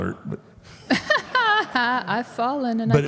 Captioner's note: Michelle laughs